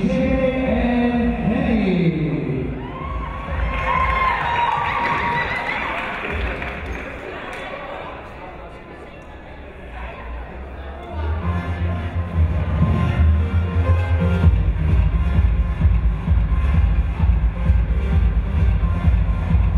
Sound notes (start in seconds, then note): 3.6 clapping; 4.2 cheering; 12.5 upbeat music